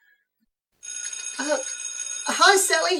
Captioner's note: school bell rings